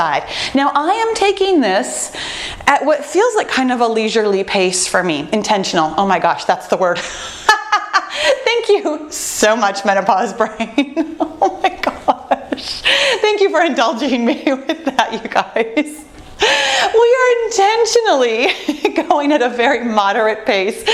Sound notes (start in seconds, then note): 7.3 laughs; 10.5 laughs; 15.3 laughs; 18.1 laughs